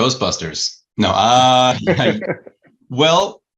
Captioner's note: all laughing